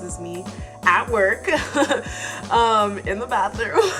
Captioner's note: laughing